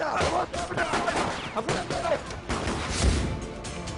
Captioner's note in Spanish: Disparos